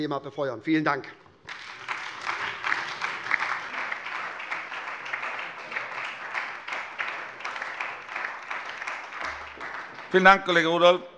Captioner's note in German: Beifall SPD, Freie Demokraten und DIE LINKE